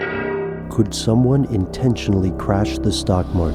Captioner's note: voiceover